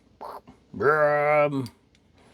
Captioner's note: grunting